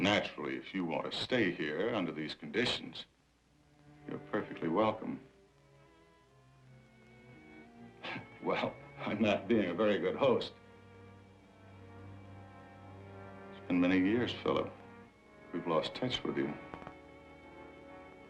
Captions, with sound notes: Naturally, if you want to stay here under these conditions, you're perfectly welcome. (laughs) Well, I'm not being a very good host. It's been many years, Phillip. We've lost touch with you.